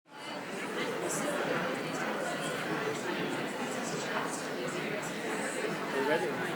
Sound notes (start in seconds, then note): 0.1 crowd chatters